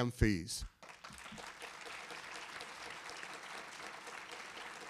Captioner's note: audience applauding